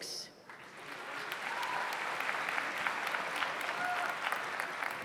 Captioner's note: audience applauds